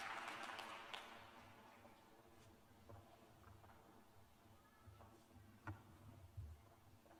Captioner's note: applause